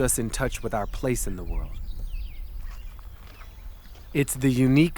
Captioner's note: birds chirping